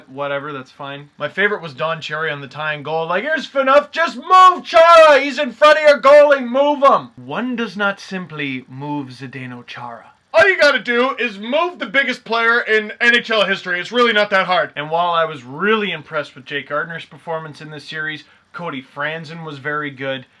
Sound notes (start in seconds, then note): 3.0 Don Cherry Voice; 9.9 Don Cherry Voice